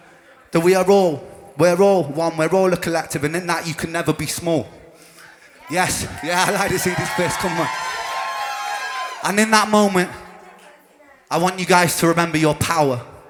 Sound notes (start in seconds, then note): 7.4 crowd cheers